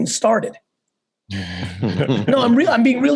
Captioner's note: laugh